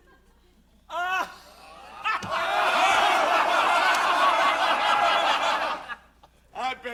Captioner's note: all laughing